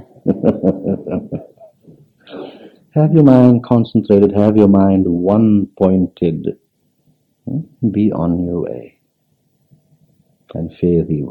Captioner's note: laughs